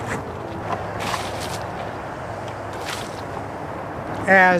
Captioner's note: sound of buckets of water being poured and splashing